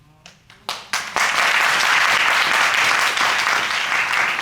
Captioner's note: audience claps